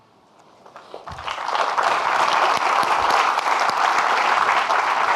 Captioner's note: audience clapping